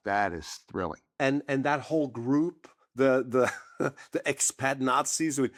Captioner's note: chuckles